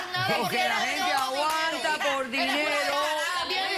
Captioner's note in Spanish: discuten entre ellas